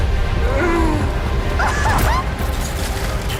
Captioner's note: eery laughing